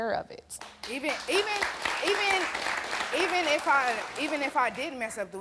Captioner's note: audience clapping